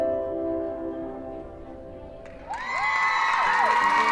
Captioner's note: cheering and applause